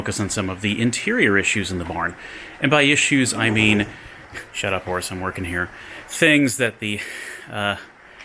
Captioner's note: horse neighs